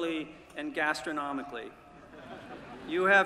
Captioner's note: laughter